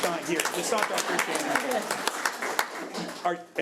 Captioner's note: audience applauds